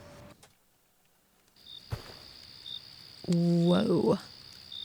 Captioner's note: crickets, fire and ducks